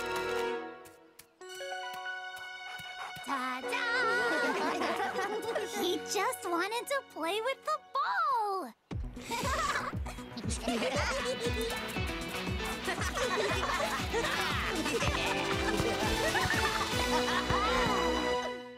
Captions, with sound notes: Ta-da! (laughing) He just wanted to play with the ball! (laughing) (all laughing)